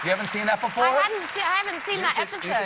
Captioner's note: cheers and applause